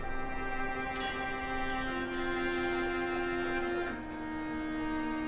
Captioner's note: mellow dramatic music; metal clanking; mellow dramatic music